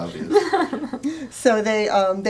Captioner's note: laughter